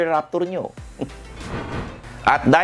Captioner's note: scoffs